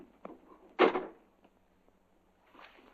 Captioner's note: door closes